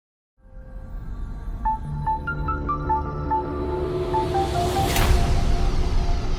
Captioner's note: suspenseful music; air whooshing